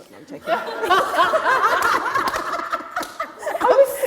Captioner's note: laughter